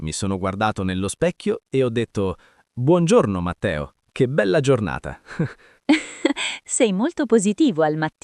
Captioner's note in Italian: risate